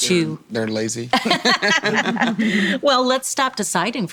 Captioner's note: all laugh